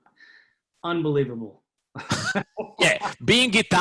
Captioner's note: laughs